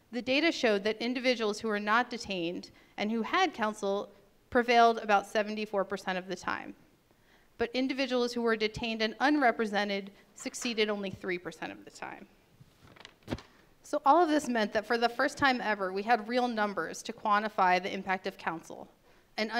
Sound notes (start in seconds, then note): none